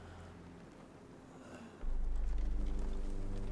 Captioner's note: groans softly